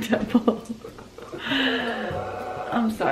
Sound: laughs

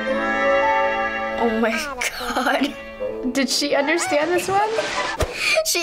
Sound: chuckles

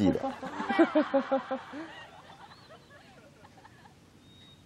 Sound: hehehehehehe

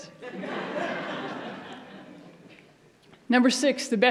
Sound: audience laughs

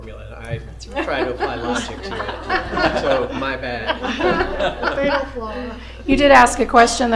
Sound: laughter

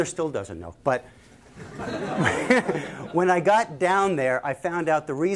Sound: laughter

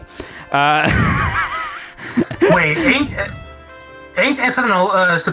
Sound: wheezing

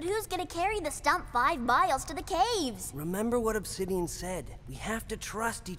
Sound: none

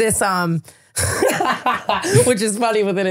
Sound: Tana laughing

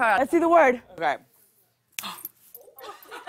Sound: gasps

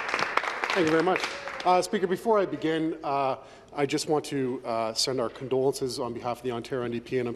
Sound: applause

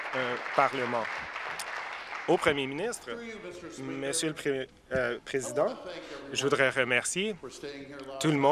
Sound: applause

